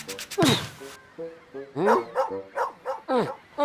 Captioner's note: barking